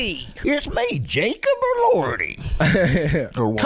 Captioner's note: southern accent